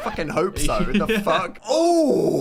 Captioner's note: laughs